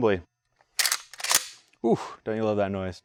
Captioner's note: gun clocks